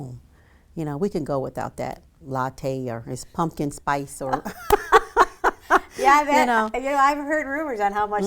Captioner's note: laughs